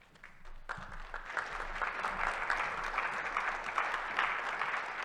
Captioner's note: attendees applauding